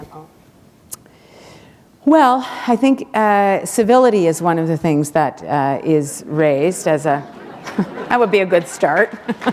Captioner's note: chuckle